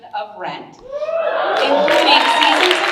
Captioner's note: audience cheering and applauding